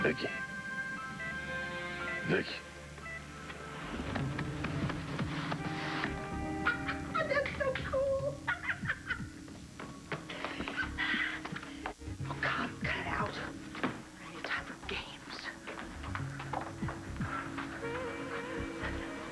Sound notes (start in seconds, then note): 8.2 niki laughs